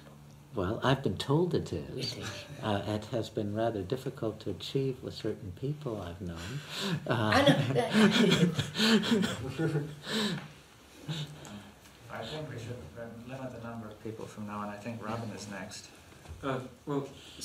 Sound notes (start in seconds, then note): 5.0 laughs